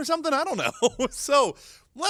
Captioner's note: chuckles